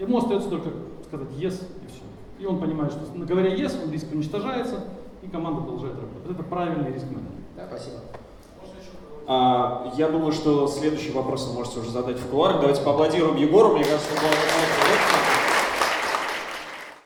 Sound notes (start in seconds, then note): 8.8 speaking in foreign language; 13.8 audience applauding